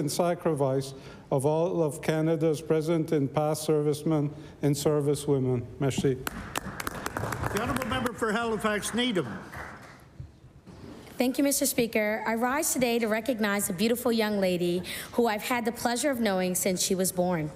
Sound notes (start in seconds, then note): 9.0 applause